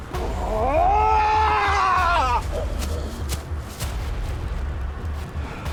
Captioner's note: Malkam screaming; intense music